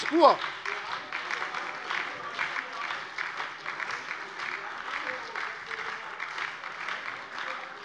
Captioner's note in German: Beifall bei der SPD und der LINKEN - Zurufe von der CDU